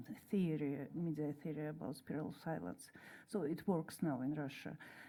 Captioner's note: speaks in Russian